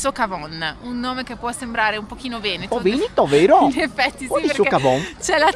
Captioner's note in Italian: risate